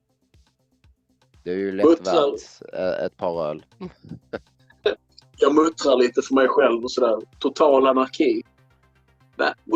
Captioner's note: muttering to himself